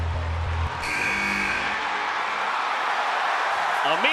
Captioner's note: applause